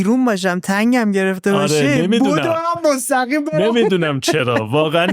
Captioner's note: laughter